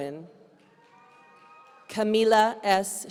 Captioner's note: audience cheering